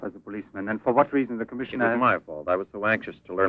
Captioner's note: none